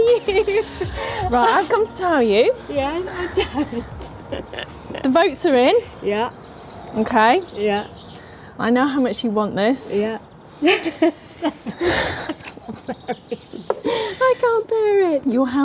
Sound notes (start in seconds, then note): 0.0 women laughing; 10.6 women laughing